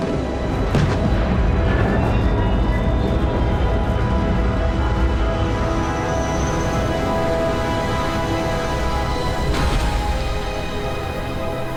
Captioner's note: spaceship engine roaring